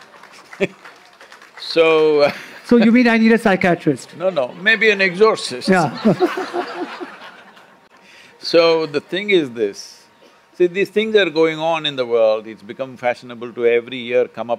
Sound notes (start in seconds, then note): 5.6 laughter